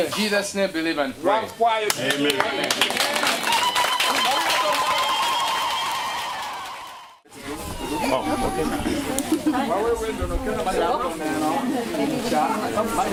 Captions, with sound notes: In Jesus's name, believe and pray. Amen. [APPLAUSE] [CHEERING] [CHATTER]